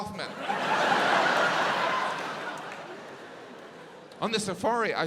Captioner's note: audience laughs